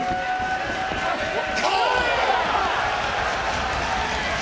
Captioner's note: crowd cheers